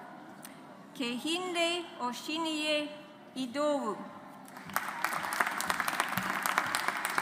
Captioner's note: audience applauds